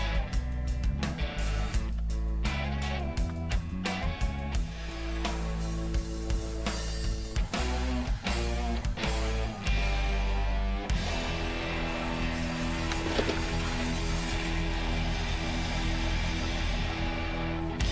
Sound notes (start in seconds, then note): 12.6 turkey fluttering